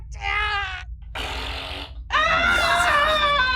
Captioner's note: fart